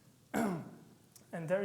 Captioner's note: clearing his throat